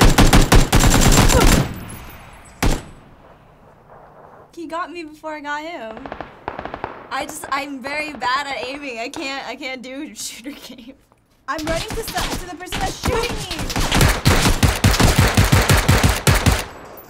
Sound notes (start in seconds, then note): 1.0 character grunts; 13.7 guns firing